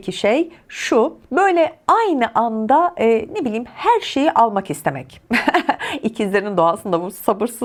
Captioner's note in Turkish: kahkaha